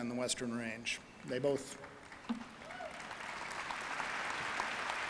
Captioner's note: audience applauding